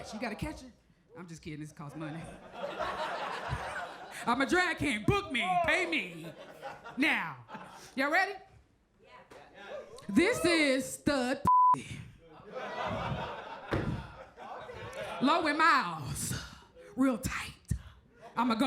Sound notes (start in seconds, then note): 1.9 crowd laughs; 5.7 crowd chuckles; 11.4 beep; 12.1 crowd laughs; 13.7 stomps